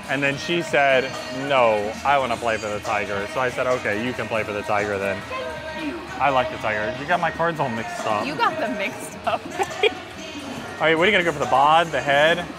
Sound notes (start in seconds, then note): 9.2 laughs